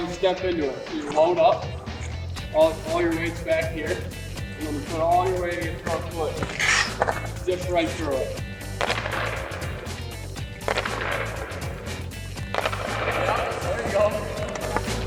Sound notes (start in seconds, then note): 8.9 hockey stick cracking